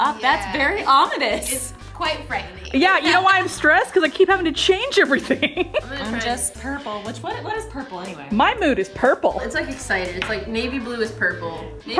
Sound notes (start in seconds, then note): 5.1 laughs